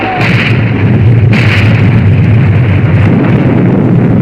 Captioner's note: explosion booming